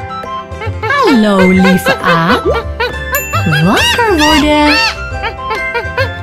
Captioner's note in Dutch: je hoort het dierengeluid van een aap